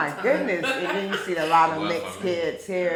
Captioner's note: laughing